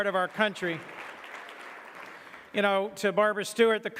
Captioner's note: audience clapping